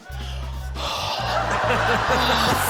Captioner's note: imitates spitting loudly; sighs